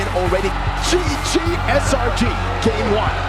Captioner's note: team cheering